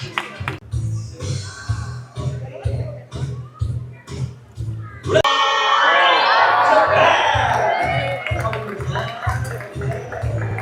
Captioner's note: applause